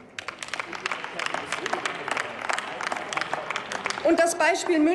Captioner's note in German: Applaus